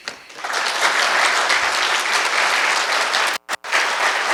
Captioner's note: applause